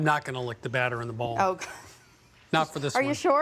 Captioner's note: laughs